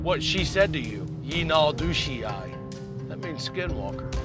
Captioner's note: non-english speech